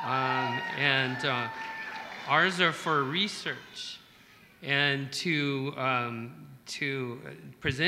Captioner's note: applause